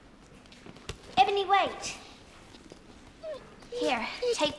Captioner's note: dog whining